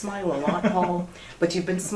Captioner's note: laughter